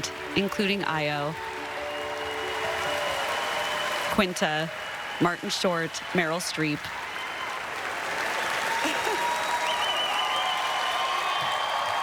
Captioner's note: applause